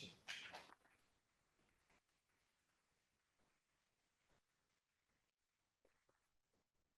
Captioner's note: applause